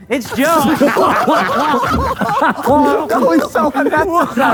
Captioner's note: group laughs